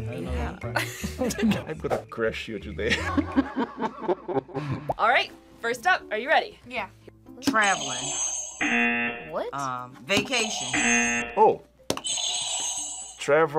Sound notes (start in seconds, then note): 4.1 laughs; 7.6 buzzer rings; 10.4 buzzer